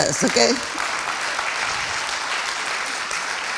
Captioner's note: applauding